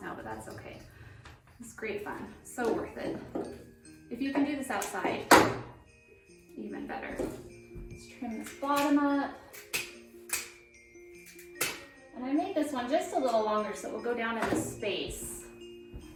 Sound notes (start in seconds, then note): 9.5 scissors cutting